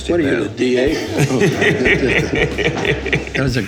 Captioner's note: laughing